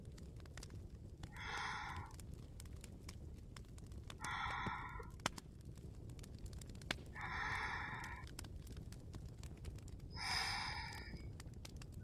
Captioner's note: soft breathing sounds